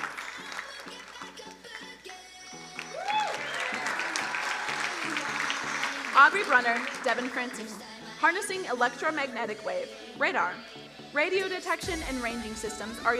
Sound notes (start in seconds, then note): 2.6 crowd cheering and applauding